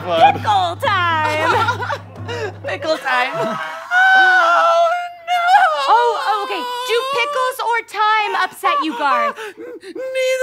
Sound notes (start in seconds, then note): 1.2 laughs